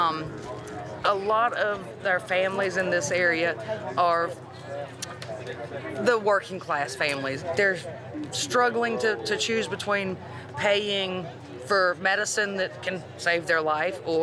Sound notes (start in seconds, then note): none